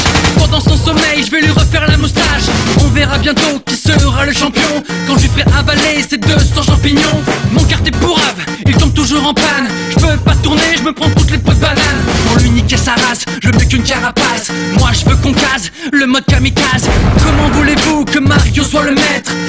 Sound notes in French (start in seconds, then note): 0.0 bruits de tirs; 16.8 explosion